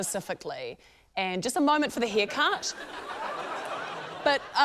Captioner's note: laughter